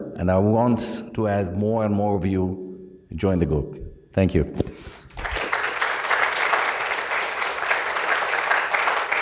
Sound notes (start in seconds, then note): 5.1 applause